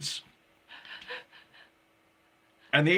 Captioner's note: laughing